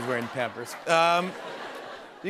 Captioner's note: laughter